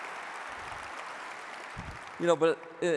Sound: audience applauding

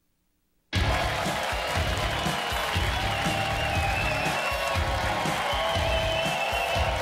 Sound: audience cheering; edgy music

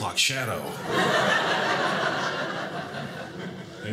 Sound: audience laughing

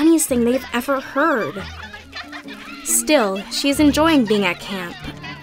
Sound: laughter

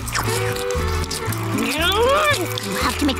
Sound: growling

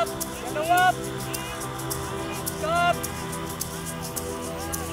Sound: inspirational ambient music; students shouting instructions

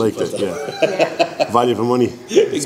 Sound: laughs

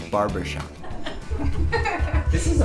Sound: laughing

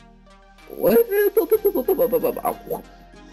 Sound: sleepy noises

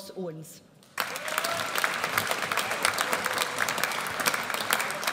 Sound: audience applauds

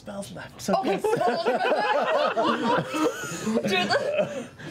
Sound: laughter

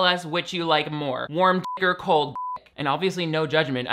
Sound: beep

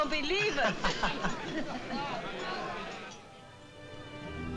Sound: laughs

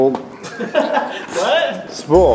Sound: laughs

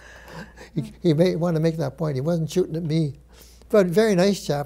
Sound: laughs

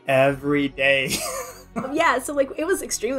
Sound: laughs

